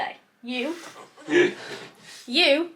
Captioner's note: husband laughs